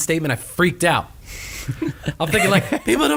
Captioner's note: laughing